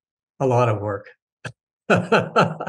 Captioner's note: laughs